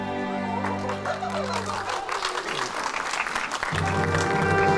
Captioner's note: applause